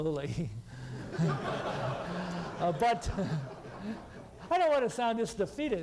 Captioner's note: laughter